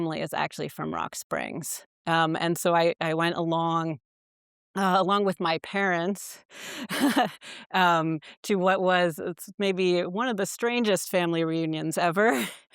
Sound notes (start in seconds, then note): 6.8 chuckles